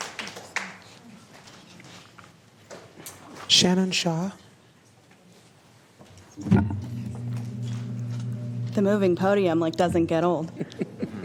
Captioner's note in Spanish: Aplausos